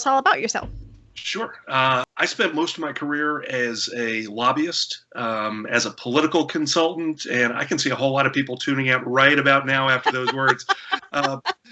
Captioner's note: laughter